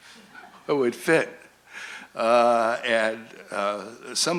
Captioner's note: laughter